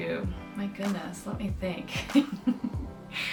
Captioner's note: laughs